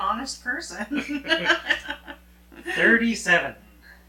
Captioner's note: both laughing